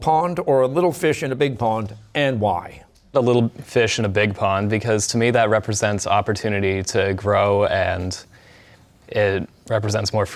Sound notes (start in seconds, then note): none